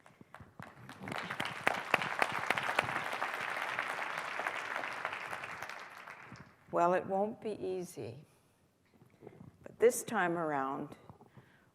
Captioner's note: applause